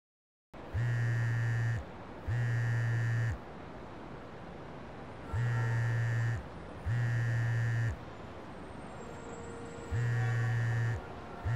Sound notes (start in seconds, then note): 1.4 cell phone ringing